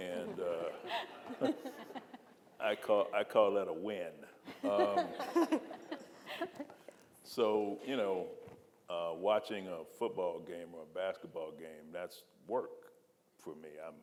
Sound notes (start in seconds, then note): 0.2 audience laughing; 4.5 audience and panelists laughing